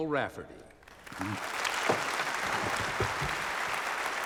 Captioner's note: audience applauding